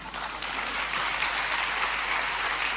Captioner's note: applause